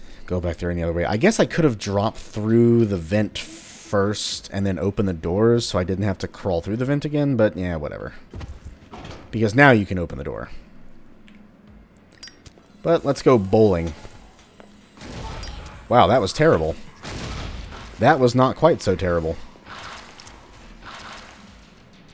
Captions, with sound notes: go back there any other way. I guess I could have dropped through the vent first, and then opened the doors, so I didn't have to crawl through the vent again but, yeah, whatever. Because, NOW you can open the door. But, let's go bowling. *enemies alerted, KABOOM* Wow, that was terrible! *KABOOM* That was not quite so terrible!